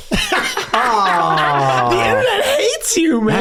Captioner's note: gang laughing